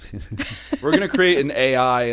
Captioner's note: laughter